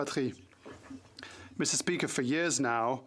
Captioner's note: speaking French